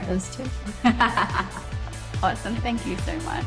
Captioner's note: both laughing